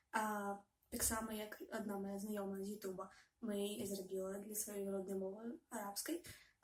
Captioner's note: Arabic